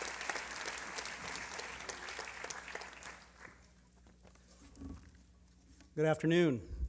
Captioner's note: applause